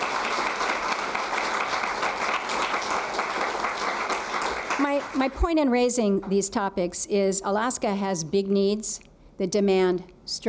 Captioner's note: applause